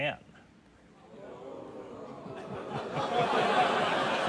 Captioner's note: audience exclaims; audience laughs